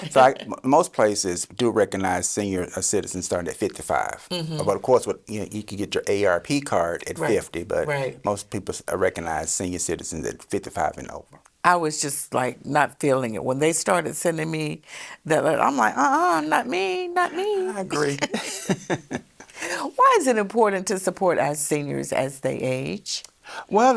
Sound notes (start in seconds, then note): 19.3 both laugh